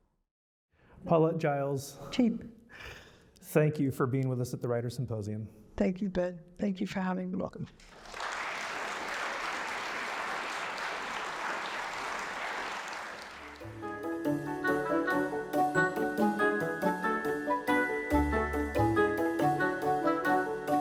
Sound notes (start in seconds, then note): 12.2 applause